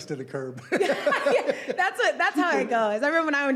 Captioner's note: laughing